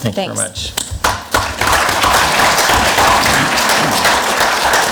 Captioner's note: clapping